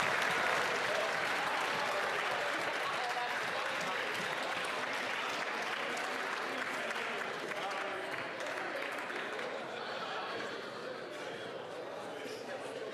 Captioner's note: applause